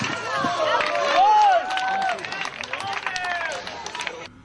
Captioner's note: applause